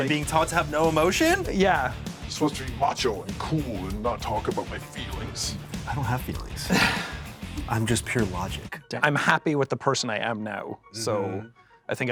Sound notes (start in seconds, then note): 2.3 edited deep voice; 5.9 normal voice